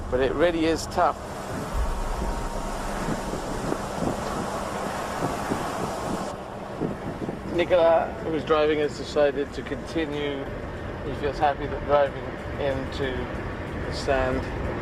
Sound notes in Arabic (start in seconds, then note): 2.7 الرياح تهب بشدة